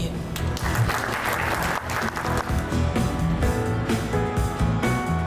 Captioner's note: audience applauding